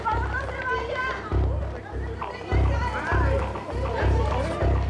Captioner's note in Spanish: comentarios al unísono